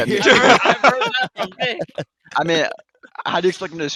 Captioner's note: laughs